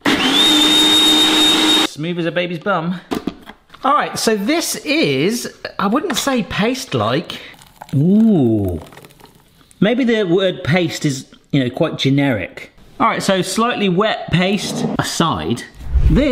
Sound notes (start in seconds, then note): 0.0 blender hums; 7.5 mixture plops